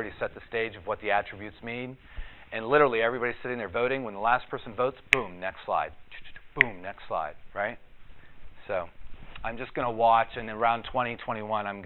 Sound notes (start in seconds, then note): 6.3 snaps fingers